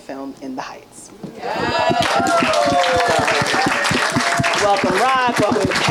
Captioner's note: audience applauding and cheering